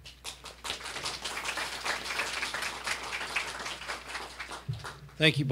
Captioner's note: applause